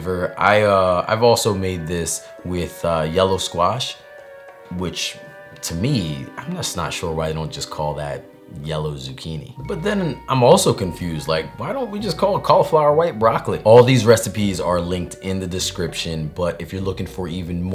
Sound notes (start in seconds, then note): none